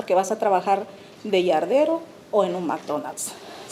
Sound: speaking Spanish

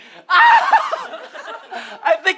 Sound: screams

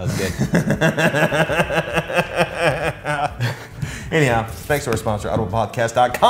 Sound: laugh

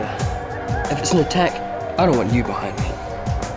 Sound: wolf howls continue

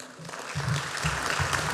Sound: applause

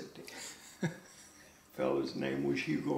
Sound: laughs

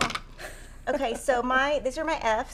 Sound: laughing

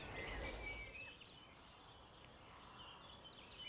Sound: birds chirping

